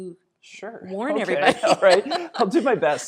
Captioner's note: laughing